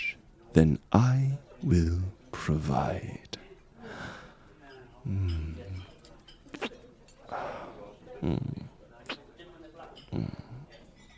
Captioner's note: SFX: Making out